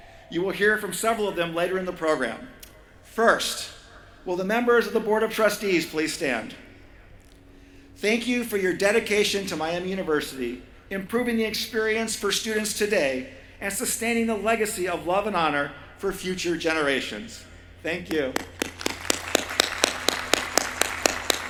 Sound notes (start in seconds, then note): 18.0 applause